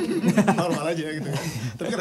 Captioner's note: laughs